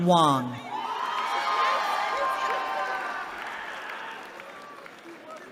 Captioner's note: cheering